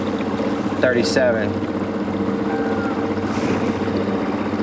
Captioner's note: water bird crying; motor puttering